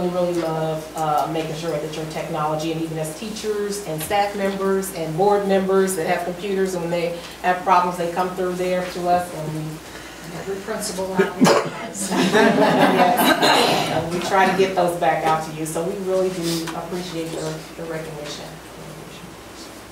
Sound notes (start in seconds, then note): 11.2 group laughs